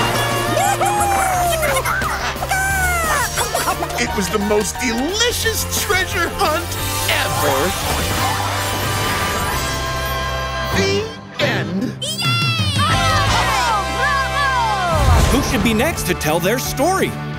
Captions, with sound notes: Whoo hoo! [clucking] It was the most delicious treasure hunt ever. The end. [cheering] Who should be next to tell their story?